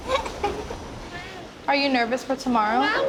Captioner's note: girl giggling